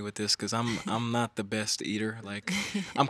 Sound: chuckles

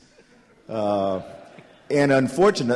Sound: laughter

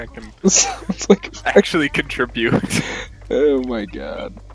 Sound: laughs

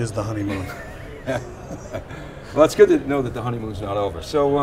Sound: laughs

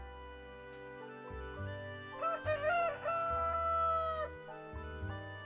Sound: calm music; rooster crowing

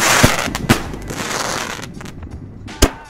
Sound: fireworks crackling; fireworks popping

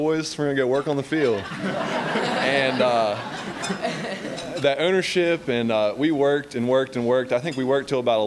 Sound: laughter

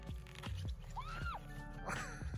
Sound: yelps; laugh

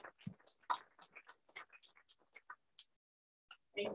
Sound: applause

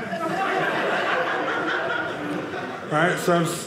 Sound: audience laughing

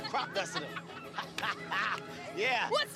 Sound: laughs

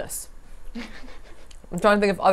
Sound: laughs

